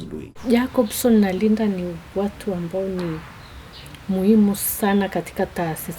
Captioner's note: speaking in foreign language